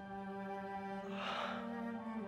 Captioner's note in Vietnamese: Thở dài